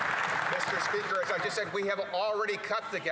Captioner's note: some Applause